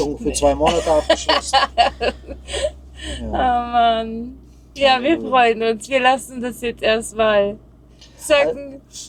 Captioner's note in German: gelächter